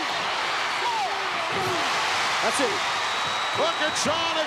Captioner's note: applause